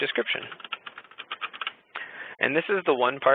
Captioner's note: keyboard clicking